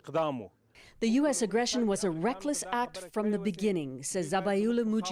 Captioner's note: speaking Foreign Language